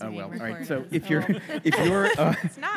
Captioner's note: laughter